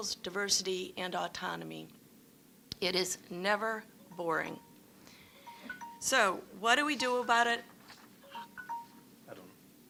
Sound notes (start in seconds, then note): 5.1 phone chiming